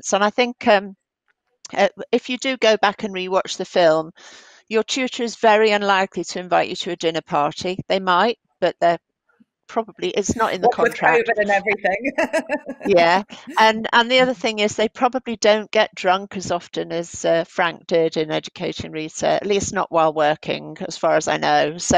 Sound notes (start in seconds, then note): 12.1 laughs